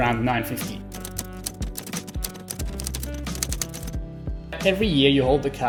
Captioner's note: keys clacking